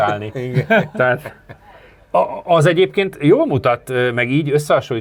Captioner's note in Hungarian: nevetés